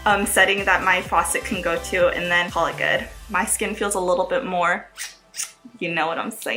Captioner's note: kissy sound